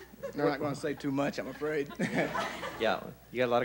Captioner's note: laughs